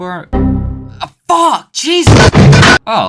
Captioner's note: frustration